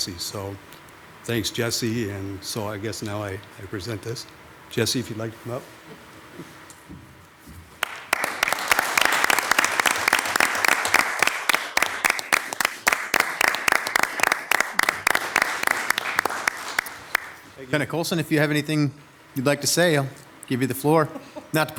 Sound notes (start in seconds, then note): 8.3 audience applauds